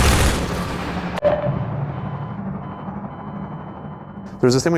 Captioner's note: loud automatic gunfire; distant helicopter whirring; muffled beeping